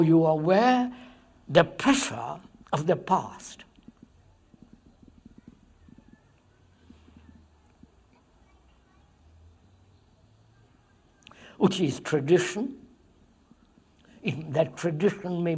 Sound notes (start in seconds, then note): none